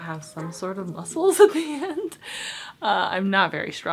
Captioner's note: giggles